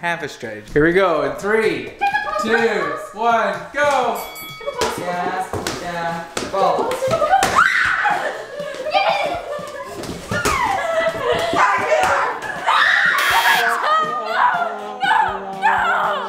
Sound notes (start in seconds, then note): 4.1 boxing bell sound; 4.6 ball bounces; 8.0 screaming and laughing; 13.1 buzzer